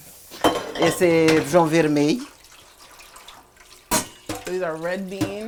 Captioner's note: speaking portuguese